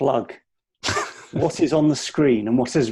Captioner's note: laughing